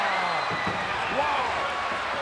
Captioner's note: crowd cheers